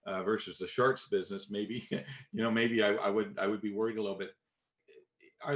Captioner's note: chuckles